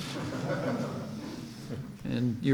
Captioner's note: laughter